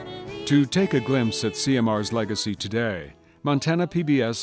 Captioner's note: voiceover